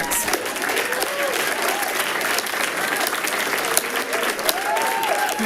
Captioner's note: people cheering and clapping